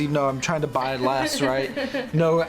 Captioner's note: laughs